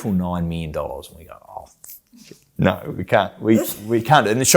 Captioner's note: groans